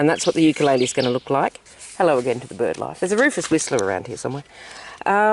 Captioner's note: bird call